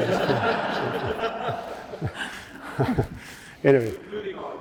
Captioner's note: audience laughing